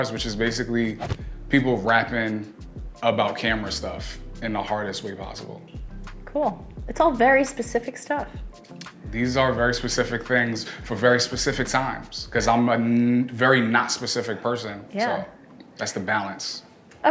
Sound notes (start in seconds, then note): none